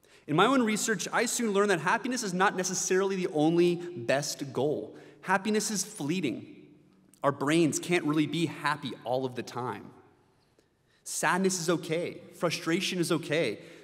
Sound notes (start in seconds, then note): none